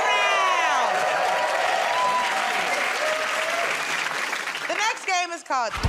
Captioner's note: cheers and applause